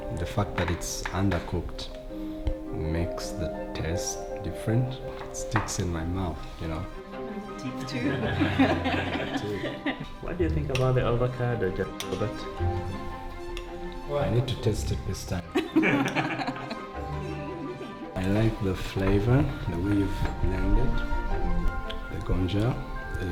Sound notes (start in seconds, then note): 8.0 laughter; 15.5 laughter